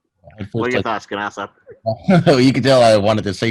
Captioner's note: chuckles